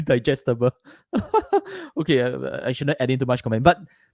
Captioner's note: laughs